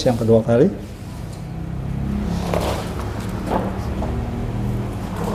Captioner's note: paper cover noise; press machine noise